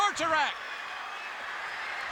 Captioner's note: crowd cheering